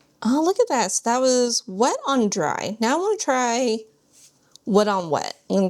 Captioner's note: none